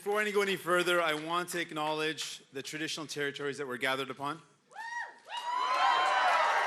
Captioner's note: cheering and Applause